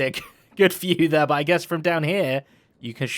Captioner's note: laughs